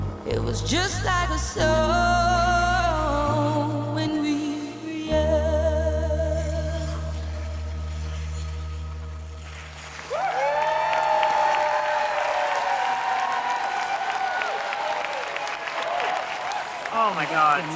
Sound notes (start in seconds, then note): 6.6 skates scraping ice; 9.6 audience applauding; 10.0 audience cheering